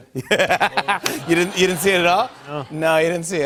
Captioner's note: laughter